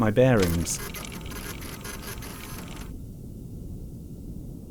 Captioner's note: photo station clicks and whirrs